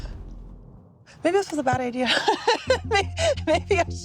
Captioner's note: laughs